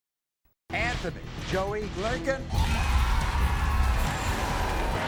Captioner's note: audience cheers